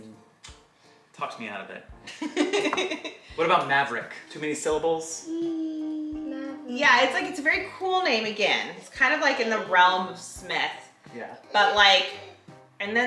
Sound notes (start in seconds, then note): 2.2 mum laughing